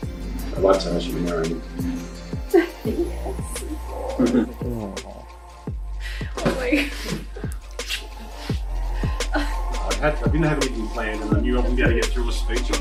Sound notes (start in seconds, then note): 2.4 laughs; 6.3 laughs; 7.5 lips smack